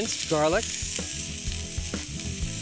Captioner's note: sizzling